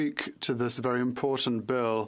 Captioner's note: speaking French